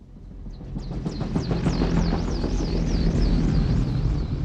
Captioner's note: helicopter approaches